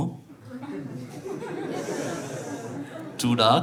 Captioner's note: laughter